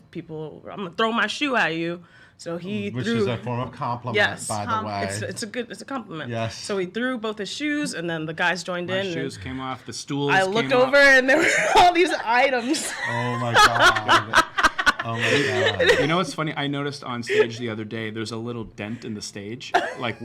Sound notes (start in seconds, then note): 12.6 laughs